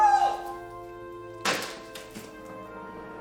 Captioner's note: slam!